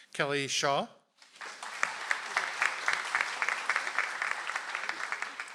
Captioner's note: audience applauds